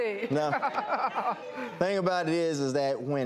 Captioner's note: laughing